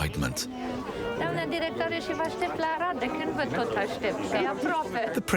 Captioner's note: speaking foreign language